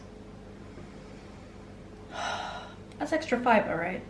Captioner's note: deep sigh